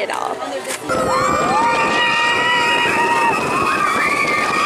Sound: kids screaming

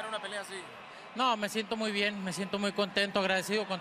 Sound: speaking Spanish

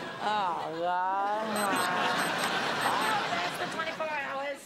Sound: beeping

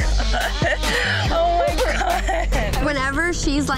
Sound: laughing

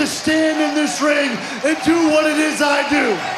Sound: cheers and applause

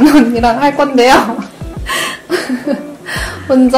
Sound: dying of laughter

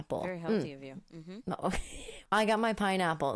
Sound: laughing

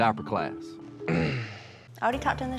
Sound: clears throat

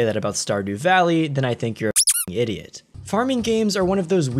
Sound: squeaks

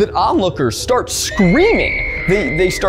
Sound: person screams

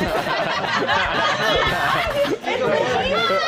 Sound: laughter

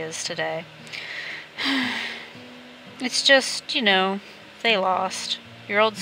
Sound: sigh

